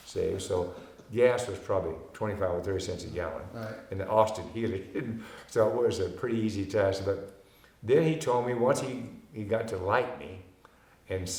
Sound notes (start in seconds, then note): 5.0 chuckling